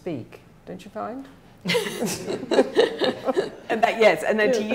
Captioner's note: laughing